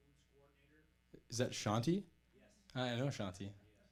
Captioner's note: voiceover